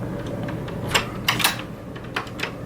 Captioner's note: door clicks open